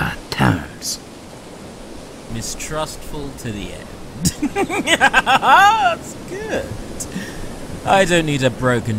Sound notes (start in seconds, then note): 4.2 insert a quick fit of delighted giggling